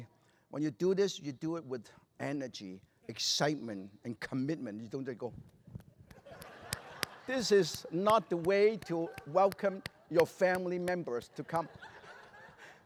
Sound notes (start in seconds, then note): 6.0 claps weakly; 6.1 laughter